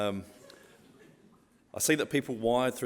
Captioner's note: crowd chuckling